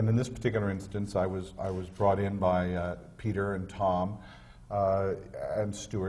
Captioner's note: none